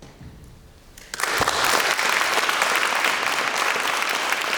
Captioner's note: audience applauds